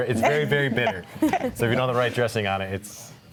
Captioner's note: group laugh